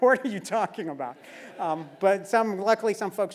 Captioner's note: laugh